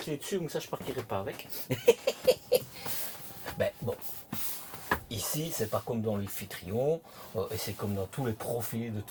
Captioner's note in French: rires